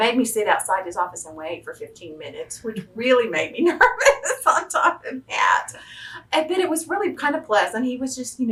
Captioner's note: laughs